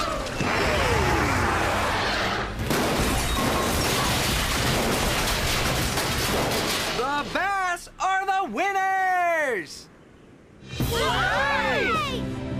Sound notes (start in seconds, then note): 2.7 loud crashing; 10.8 Bass Camper Cheering